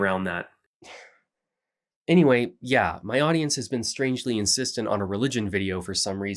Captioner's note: sigh